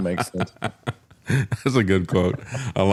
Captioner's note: laughing